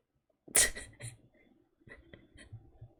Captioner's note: laughs